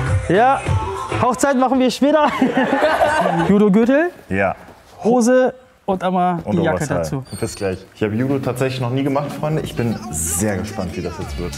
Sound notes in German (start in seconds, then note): 2.2 Lachen